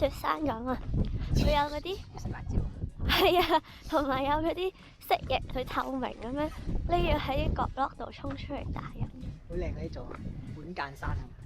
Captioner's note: strong wind